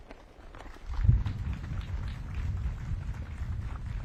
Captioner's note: audience claps